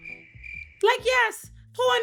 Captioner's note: crickets chirping